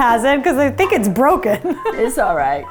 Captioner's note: laughs